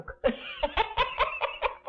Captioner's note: chuckling